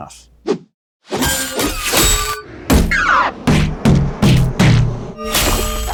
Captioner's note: bodies and energy thudding and slashing